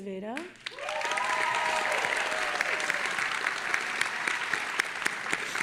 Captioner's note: audience applauding and cheering